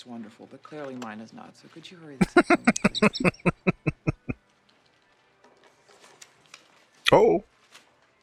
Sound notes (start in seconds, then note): 2.2 laughing